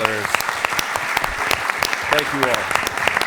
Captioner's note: applause